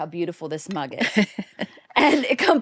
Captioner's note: laughs softly